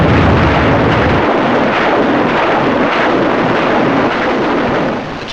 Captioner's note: rockets blasting